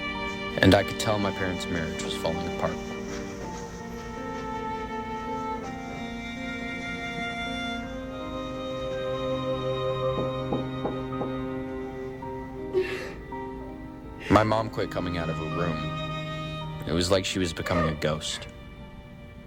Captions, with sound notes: And I could tell my parents' marriage was falling apart. (melancholic music continues) (door knocking) (mom sobbing) My mom quit coming out of her room. It was like she was becoming a ghost.